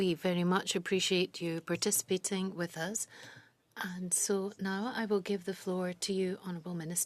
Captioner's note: speaking French